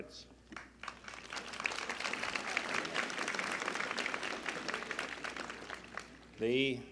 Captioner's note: applause